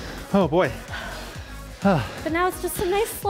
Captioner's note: breathes heavily